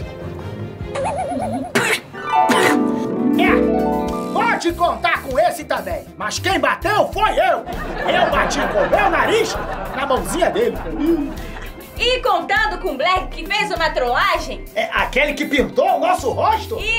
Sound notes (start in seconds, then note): 2.4 coughs